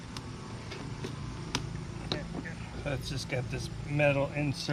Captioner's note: plastic thudding